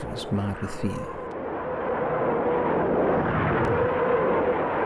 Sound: rockets howling

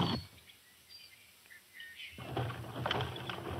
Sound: birds chirping; cart rattling

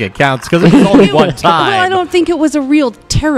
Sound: laughs

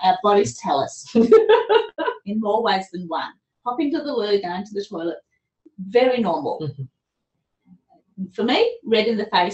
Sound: laughter

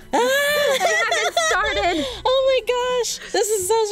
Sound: laughing

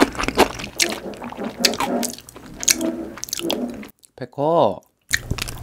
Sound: The sound of my cat Baekho pushing a chair

